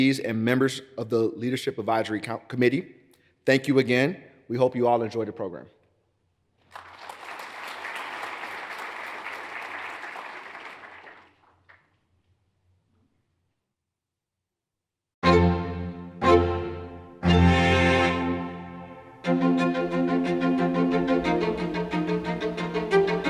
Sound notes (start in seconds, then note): 6.6 audience applauds; 15.2 regal orchestral music; 19.5 uptempo orchestral music